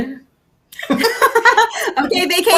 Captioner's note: both laughing